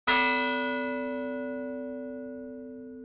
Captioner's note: bell rings